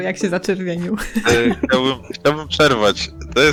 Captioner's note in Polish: śmiech